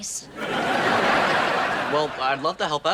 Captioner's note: audience laughs